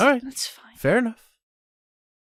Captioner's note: sighing